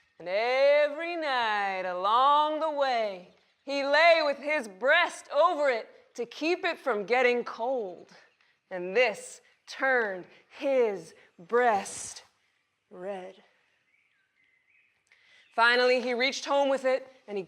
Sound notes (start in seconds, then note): none